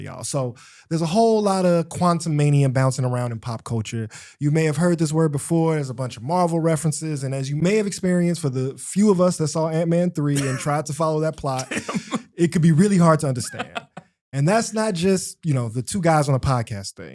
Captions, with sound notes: So there's a whole lot of quantum mania bouncing around in pop culture. You may have heard this word before. There's a bunch of Marvel references, and as you may have experienced, for the few of us that saw Ant-Man 3 and tried to follow that plot- Damn! … It can be really hard to understand. [Laughter] and that's not just, you know, the two guys on a podcast thing.